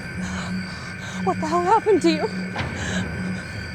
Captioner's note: crying